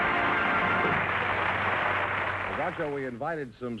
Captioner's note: theme music & applause; applause